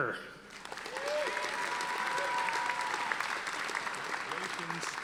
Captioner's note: audience applauding